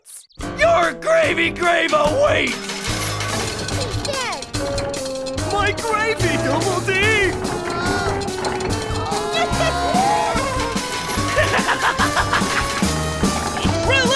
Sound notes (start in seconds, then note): 2.5 machine whirs; 9.1 Melonhead groans; 9.3 all exclaim; 11.0 Eddy laughs